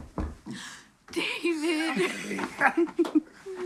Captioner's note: knocks; gasps